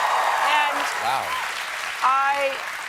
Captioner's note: cheers and applause